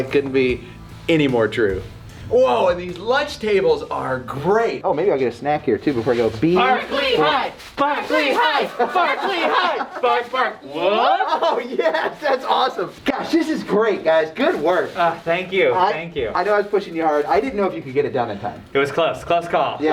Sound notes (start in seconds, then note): 7.0 chanting